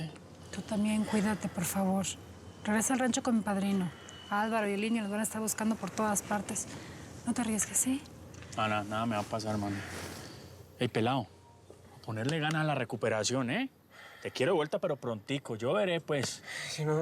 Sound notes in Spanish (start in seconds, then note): 11.5 palmadas